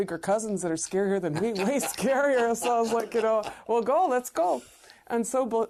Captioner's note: laugher